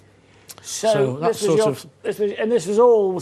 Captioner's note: stammering